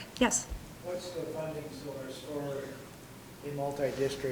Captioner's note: whispering